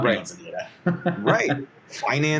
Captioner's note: laughing